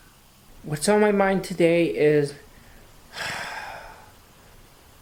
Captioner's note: suspira